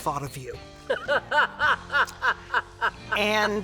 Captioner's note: laughs